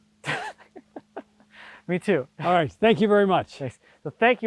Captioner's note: chuckling